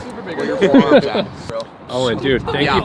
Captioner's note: laughter